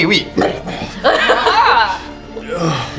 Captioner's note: laugh